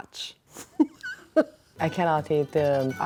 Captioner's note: laughing